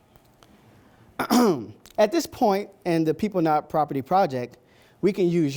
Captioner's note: ahem